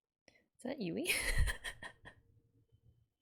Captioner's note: laughs